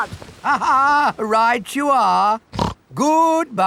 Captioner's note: laughs; snorts